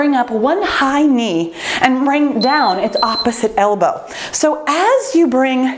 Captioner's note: timer beeps